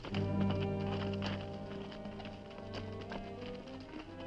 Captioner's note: horse hooves clopping